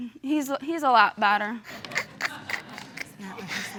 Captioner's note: snickers; scattered laughter